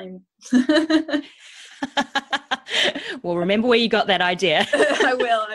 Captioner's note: laughs